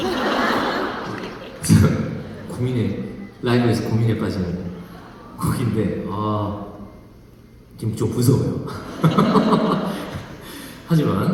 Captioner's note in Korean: 웃음